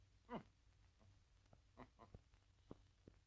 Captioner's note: giggling